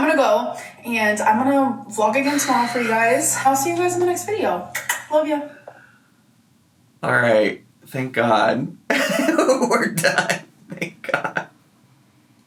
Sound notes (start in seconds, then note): 4.7 smooches; 8.9 laughs